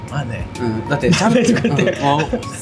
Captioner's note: laughs